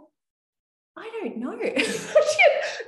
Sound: laughing

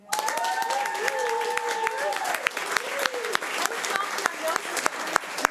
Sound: everyone applauding and cheering

